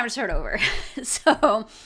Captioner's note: chuckles